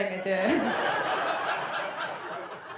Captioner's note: audience laughs